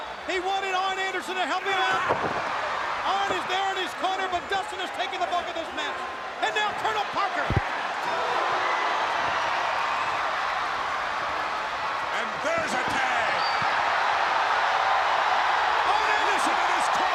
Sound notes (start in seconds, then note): 8.0 crowd cheering; 13.5 crowd roaring